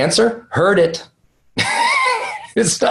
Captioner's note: laughs